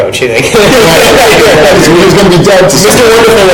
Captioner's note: panel laughing